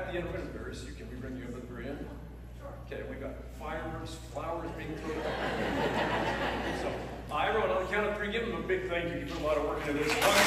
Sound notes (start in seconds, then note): 5.0 laughter; 9.9 applause